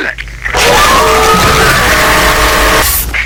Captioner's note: screams